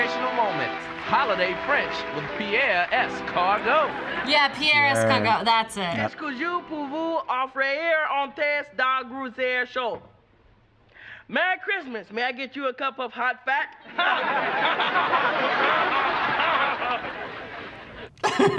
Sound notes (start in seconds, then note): 6.3 speaks in incorrect French; 13.8 audience laughs